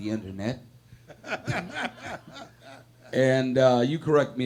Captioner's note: laughing